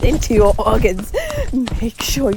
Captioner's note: Miss Circle inhales